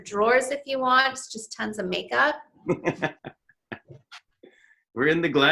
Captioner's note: laughs